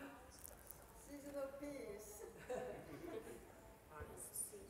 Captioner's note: Stimme in Sangha